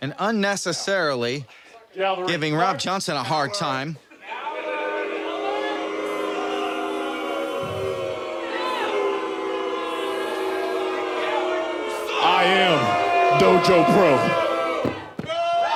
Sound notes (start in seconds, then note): 4.5 audience boos